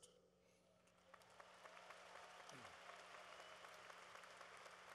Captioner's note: cheering